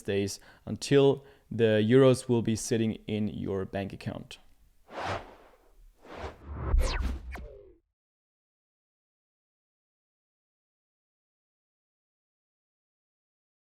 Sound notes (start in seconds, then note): 4.9 screen whooshes